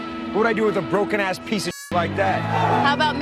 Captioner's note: beep